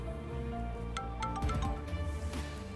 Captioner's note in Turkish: Telefon Çalıyor